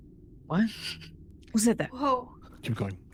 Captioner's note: laughing